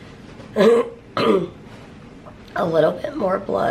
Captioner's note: clears throat